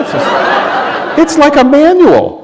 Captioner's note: laughter